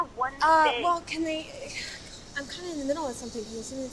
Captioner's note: Cassidy stammering